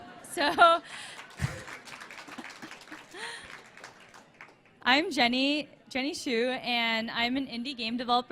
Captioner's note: applause